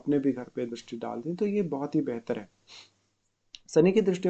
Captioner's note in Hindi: नाक से की जाने वाली आवाज़